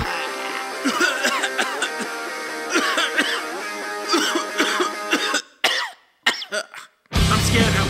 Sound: coughing

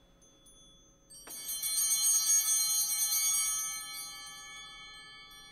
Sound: bell ringing

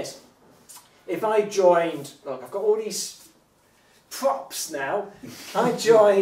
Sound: chuckles

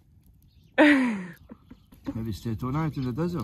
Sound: chuckling

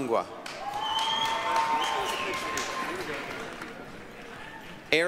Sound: applause, cheering

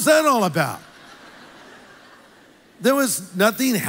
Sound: congregation laughs

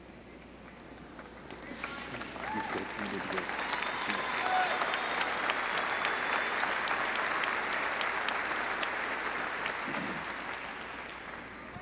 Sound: applause

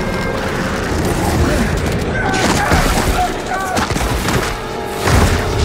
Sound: gunshots

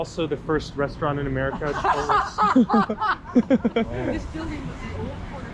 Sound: i burst out laughing lol

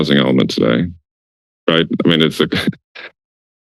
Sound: laugh

